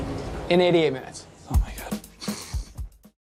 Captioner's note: whispers